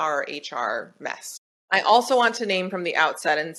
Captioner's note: none